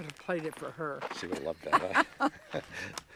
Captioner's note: laughing